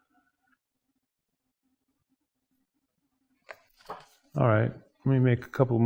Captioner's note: turning pages